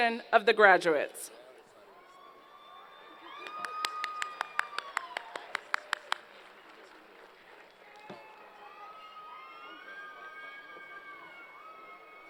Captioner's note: applause & Cheers